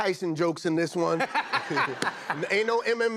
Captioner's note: laughter